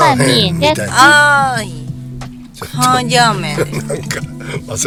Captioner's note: laughs